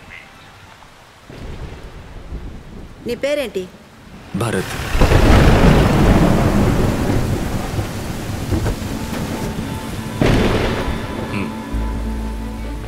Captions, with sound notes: What's your name? - Bharath. [Thunder rumbling]